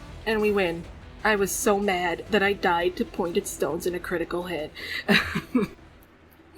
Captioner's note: laughs